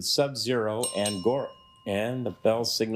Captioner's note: bell dings